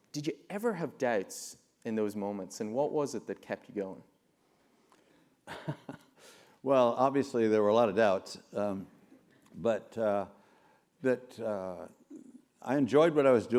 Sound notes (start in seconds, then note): 5.5 laugh